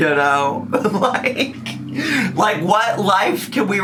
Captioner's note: laughs